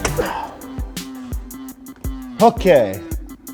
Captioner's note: grunts